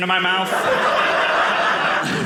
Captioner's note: audience laughing